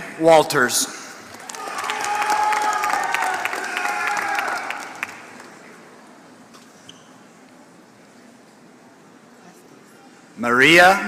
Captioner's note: applause